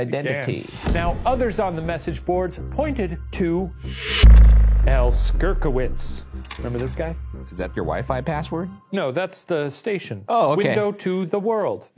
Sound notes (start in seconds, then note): 5.1 dramatic music; 6.9 slide projector clicks